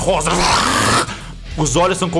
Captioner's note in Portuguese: rawr